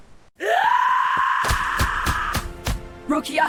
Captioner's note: screams and Attacks